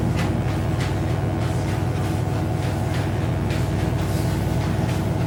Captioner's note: electric buzzing